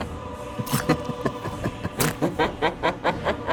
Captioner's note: evil laughing